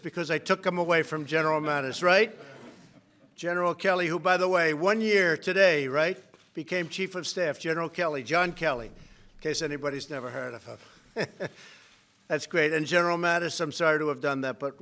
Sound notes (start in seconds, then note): 2.7 laughter; 10.7 laughs